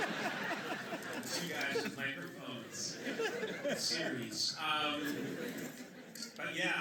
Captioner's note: laughter; laughter